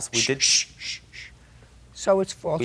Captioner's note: Judge Judy shushing